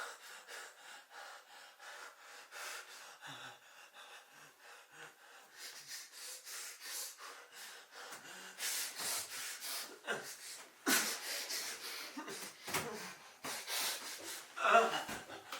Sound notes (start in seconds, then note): none